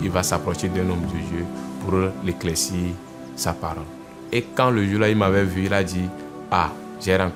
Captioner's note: continue speaking in French language